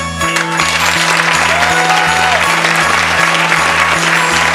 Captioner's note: holiday music; audience clapping